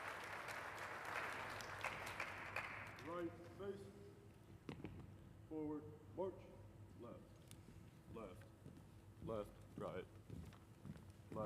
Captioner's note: applause